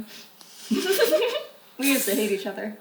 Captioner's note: giggles